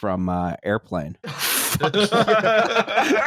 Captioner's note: laughter